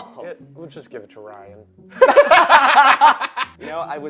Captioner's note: laugh